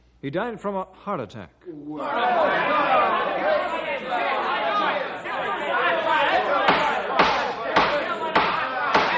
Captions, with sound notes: He died from a heart attack. [Crowd shouting] [Pounding]